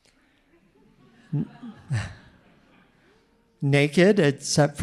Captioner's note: audience laughing